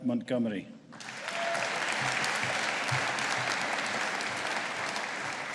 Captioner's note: audience applauding